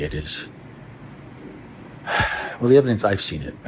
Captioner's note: sigh